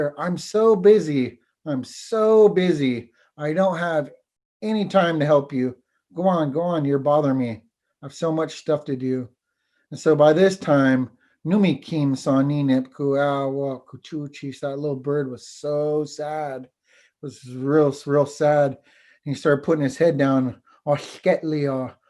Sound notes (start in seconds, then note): 11.5 foreign Language; 20.7 foreign language